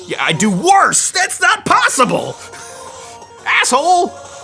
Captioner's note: laughs